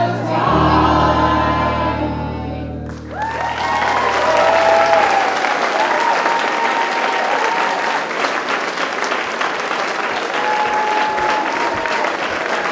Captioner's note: applause